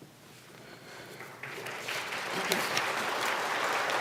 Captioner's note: applause